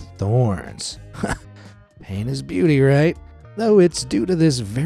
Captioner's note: chuckles